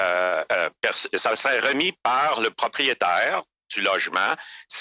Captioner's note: speaking French